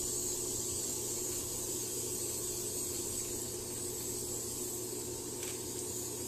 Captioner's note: spray paint noise